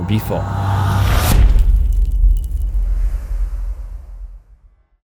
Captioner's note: impact